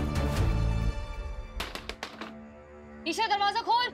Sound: knocking on door

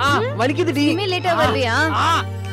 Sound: abbas shouting

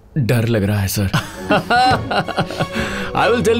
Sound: laughing

